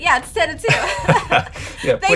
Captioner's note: laughing